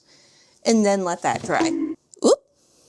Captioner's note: bonk sound